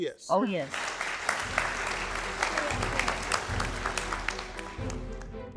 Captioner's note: audience applauding; suspenseful music